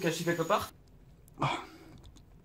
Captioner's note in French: soupire